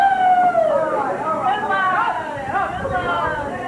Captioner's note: crowd cheers